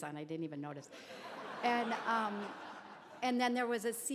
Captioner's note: crowd laughs